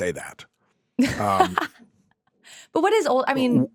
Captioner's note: laughs